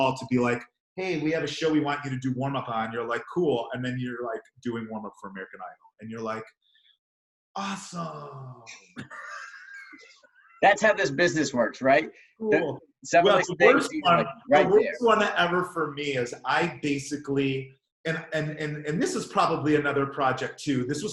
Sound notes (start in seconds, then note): 13.2 murmurs